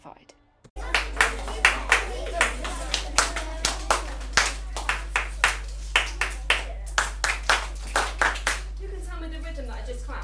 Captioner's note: teacher claps rhythmically